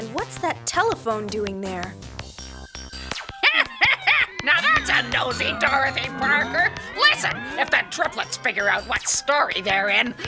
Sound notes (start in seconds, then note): 3.4 cackling